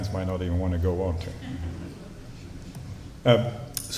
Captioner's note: slight laughter